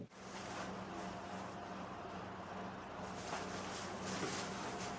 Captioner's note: paper rustling